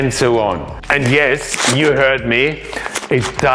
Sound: rice shakes

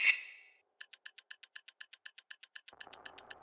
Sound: timer sound going fast

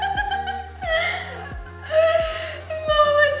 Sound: laughing

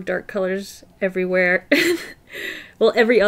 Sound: laughs

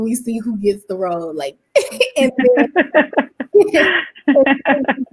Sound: laughs

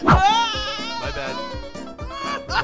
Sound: Alef screams

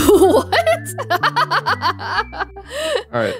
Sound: chuckles

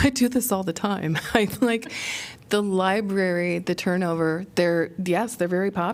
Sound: laughter

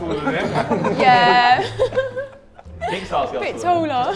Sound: Sidemen laugh

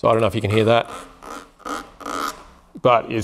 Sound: squeaking

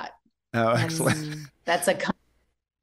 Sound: chuckle

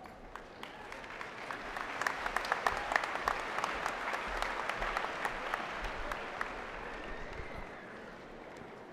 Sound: applause

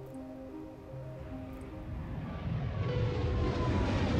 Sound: plane landing

